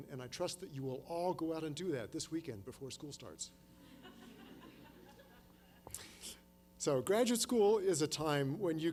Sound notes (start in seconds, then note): 3.8 laughter